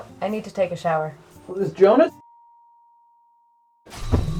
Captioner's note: eerie silence